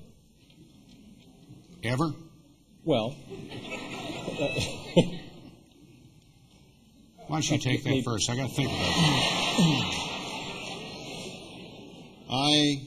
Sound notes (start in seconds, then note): 10.6 laughter